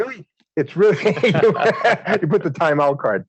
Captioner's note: laughter